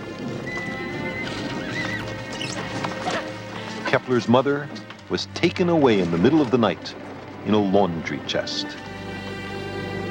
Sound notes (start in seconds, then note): 2.3 woman cries